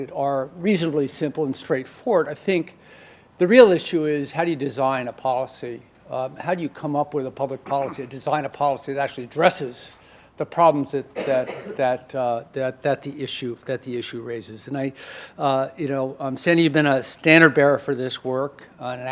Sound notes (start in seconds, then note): 11.1 audience member coughs